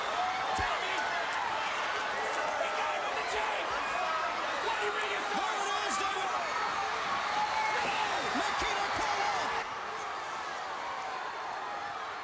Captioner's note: crowd chatter